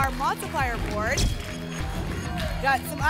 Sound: camera flash sound; whoosh

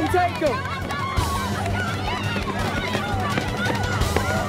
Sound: students cheering; upbeat music

